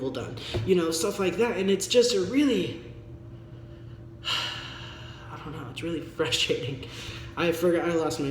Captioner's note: sigh